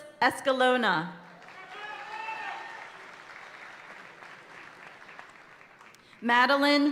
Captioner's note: audience cheering and applauding continues